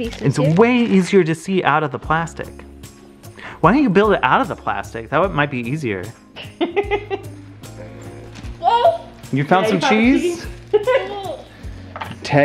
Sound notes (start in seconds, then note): 6.4 laughs